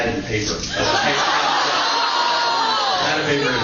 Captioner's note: laughs and awwws